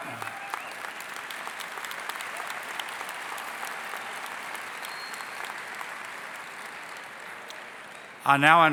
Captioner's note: applause